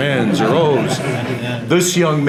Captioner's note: audience laughter